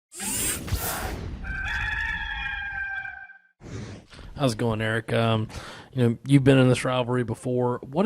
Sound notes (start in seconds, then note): 0.0 computer tech sound; 1.4 rooster crowing